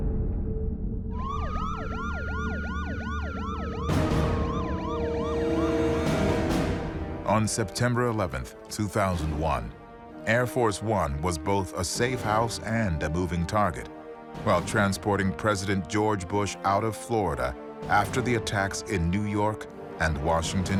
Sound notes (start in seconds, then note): 1.1 police sirens